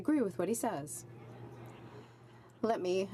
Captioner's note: some Applause